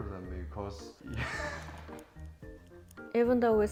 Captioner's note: embracing laughing